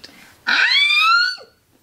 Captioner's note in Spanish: grita